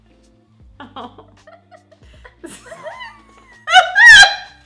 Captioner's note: laughs